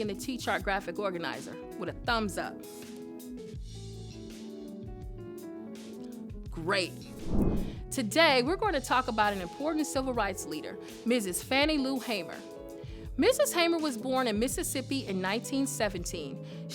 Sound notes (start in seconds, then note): 2.7 chill jazz music; 7.0 air whooshes